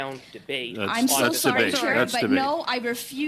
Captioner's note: off mic